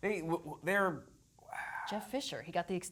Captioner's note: sighs